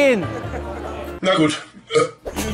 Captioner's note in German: Rülpsen